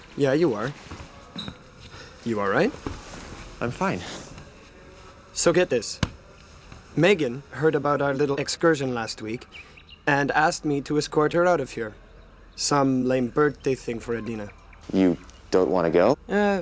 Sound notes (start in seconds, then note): none